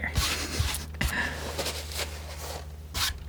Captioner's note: scratching